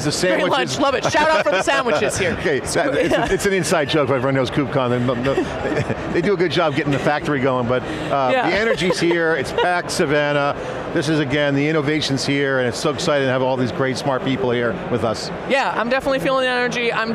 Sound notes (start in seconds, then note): 1.0 laughs; 4.9 chuckles